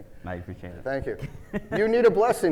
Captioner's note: laughing